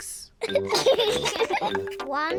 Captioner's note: both giggle